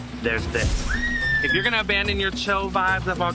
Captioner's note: passenger screaming